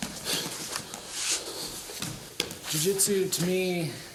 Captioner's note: soft shuffling